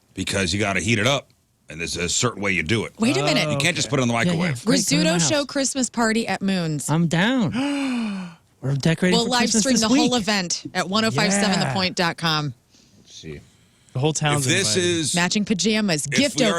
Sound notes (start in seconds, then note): 7.5 gasps